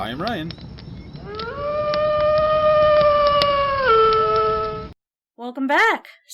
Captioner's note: wolf howl